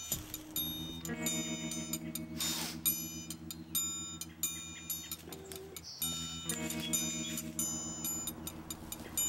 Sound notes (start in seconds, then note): 2.3 sniffs